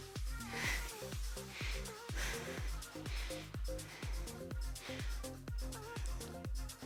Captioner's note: upbeat music; panting